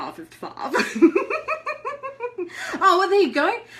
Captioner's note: laughs